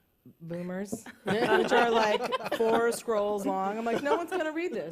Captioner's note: laughter